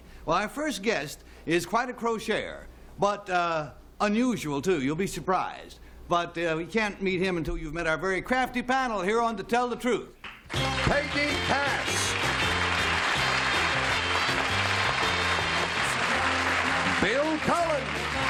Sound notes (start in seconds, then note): 10.0 applause